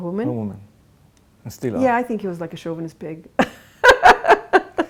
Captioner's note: laughs